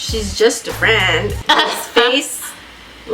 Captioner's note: laughs